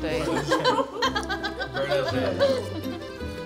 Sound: laughs

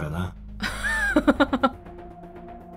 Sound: chuckles

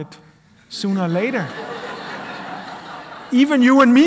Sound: laughter

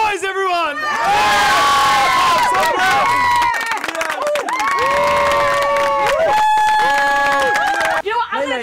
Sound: screaming and yelling

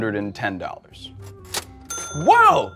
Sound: cash register sound

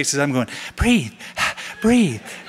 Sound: panting

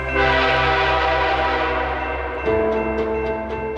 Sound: train horn

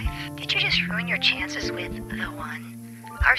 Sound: sexy female robo caller

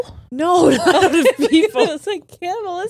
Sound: laughs

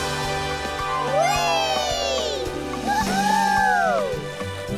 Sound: cheering

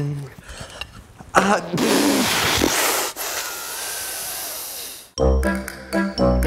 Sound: exhales rapidly in frustration; gasp in pain

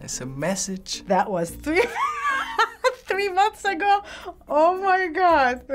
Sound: laughing

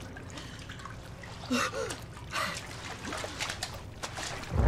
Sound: panting

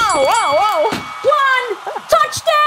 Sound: boxing bell ringing

